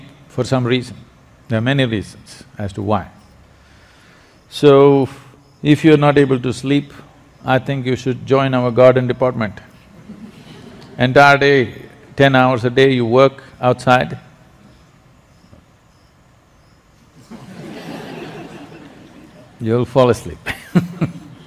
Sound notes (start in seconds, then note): 9.9 laughter; 17.1 laughs